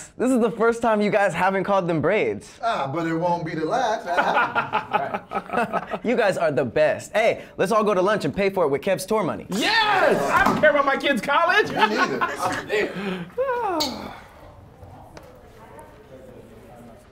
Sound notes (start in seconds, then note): 4.1 laughing; 11.4 laughs wildly; 12.6 sighs